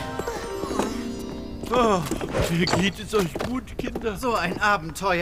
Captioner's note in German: seufzt